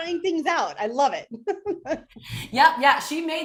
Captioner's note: laughs